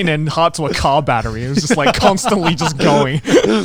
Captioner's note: laughs